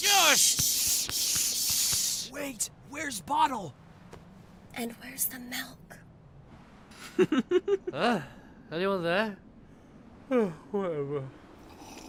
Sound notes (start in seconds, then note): 2.4 whispering; 7.1 giggling